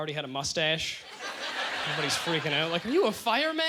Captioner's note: audience laughter